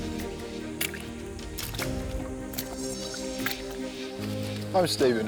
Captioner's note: footsteps squelching